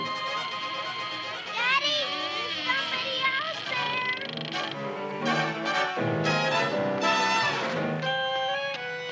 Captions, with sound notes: (door creaking) - Daddy, there's somebody out there! (unsteady dramatic music)